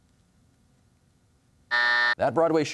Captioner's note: buzzer sounds